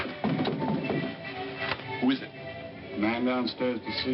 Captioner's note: knocking at door